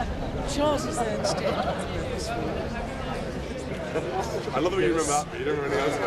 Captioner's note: soft talking